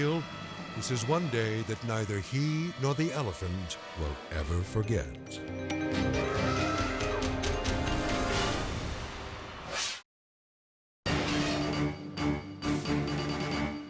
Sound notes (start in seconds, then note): 6.2 elephant trumpeting; 11.1 dramatic music